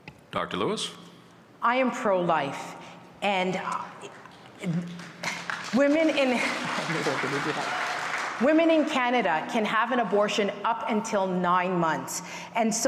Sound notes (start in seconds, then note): 9.5 applause